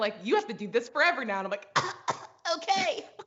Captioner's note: coughs